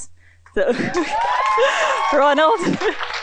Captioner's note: applause